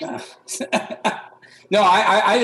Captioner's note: laughter